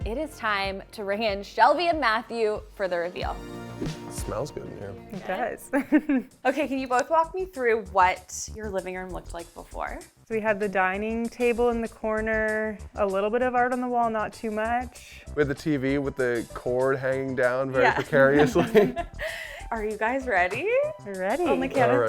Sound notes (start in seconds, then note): 17.8 laughing